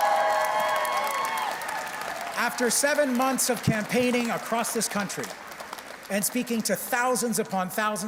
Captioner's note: cheers and Applause